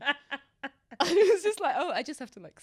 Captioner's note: laughs